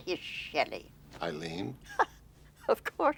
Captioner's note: chuckling